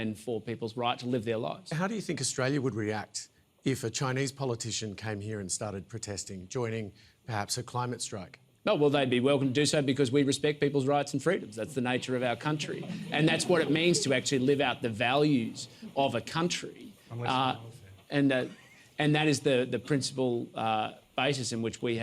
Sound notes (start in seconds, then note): 12.6 laughter